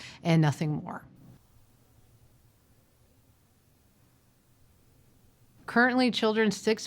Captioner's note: silence